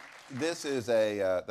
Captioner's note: applause